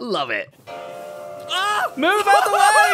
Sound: train whistles

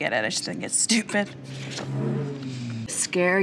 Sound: car engine roaring

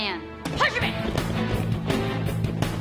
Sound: sensei speaking foreign language; intense music

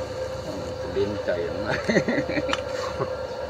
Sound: speaking in Thai; laughter

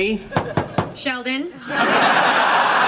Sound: Penny knocking; audience laughing

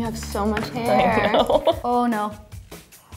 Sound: laughs

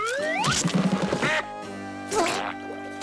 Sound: quacking

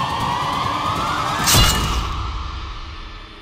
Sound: swords whooshing

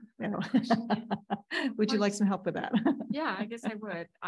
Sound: laughs

